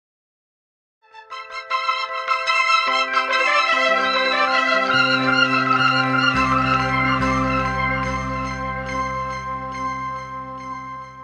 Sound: sound of bells

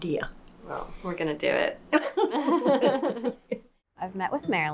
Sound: laughing

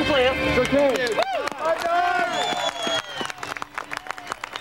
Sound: crowd cheering

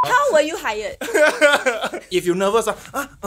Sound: laughs

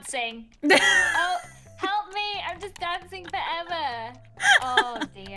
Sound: laughs

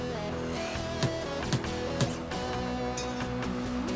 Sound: tap! Tap! Tap! Tap!; tap! Tap! Tap!

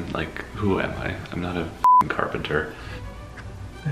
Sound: beeps

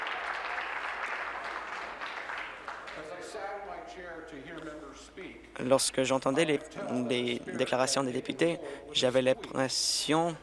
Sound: applause

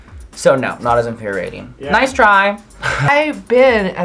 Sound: laughs

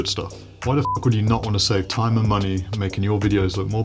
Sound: beep

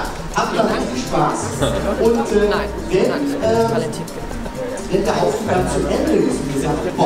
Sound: voice of the studio warmupper in the background

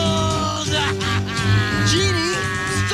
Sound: laughs

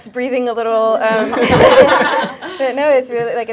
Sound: laughter

